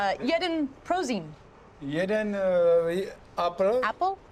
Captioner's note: speaks Czech